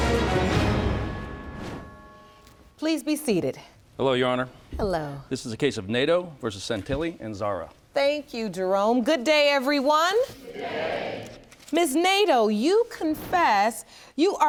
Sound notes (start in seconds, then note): none